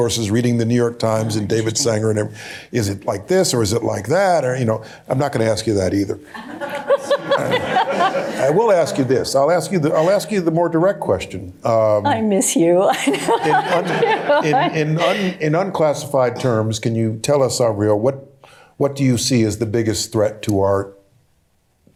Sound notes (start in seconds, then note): 6.3 laughter; 12.9 laughter